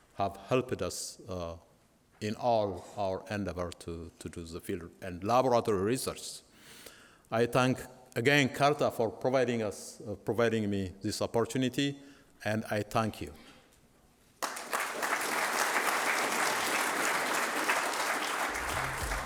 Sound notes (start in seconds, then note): 14.4 applause